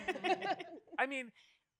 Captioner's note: all laugh